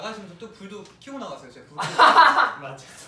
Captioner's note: laughs